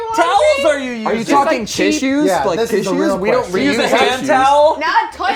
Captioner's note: overlapping chatter